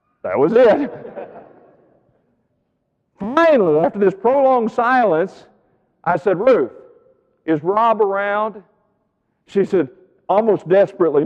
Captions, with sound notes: that was it. (audience laughing) Finally, after this prolonged silence I said, "Ruth, is Rob around?" She said, almost desperately,